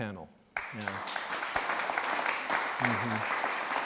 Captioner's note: clapping